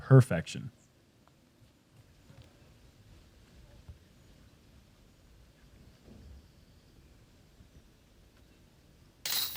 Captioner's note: silence